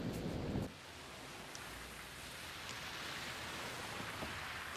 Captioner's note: rain pattering